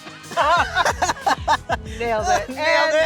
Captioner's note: laughs